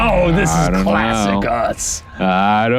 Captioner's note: laughs